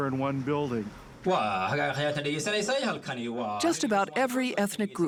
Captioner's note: speaking foreign language